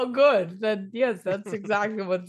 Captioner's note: laughs